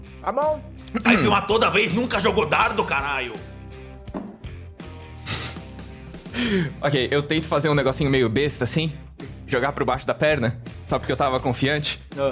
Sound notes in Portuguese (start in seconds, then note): 5.6 riso